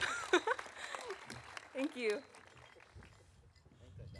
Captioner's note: laughs